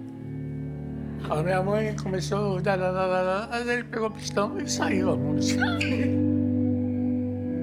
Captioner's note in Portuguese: riso